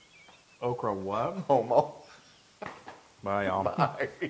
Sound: laugh; laugh

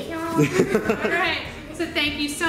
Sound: laughs

